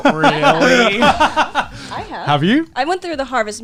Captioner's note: laughing